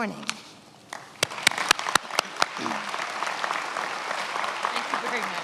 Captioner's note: attendees applauding